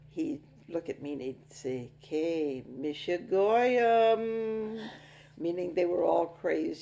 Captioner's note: speaking in foreign language